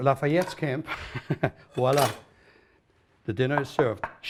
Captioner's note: chuckles